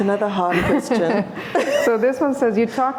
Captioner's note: laughter